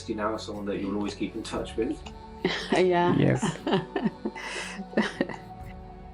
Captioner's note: laughing